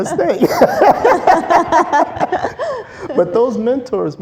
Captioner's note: laughter